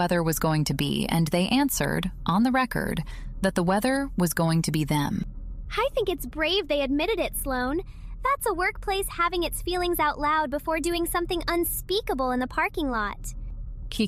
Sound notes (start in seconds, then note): 5.9 playfully